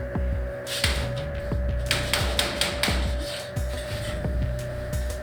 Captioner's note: clap